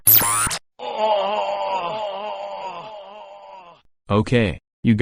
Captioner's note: Lincoln groaning